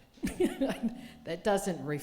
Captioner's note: laughing